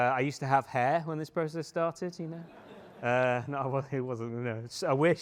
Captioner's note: laughter